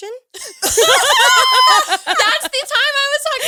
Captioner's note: all laughing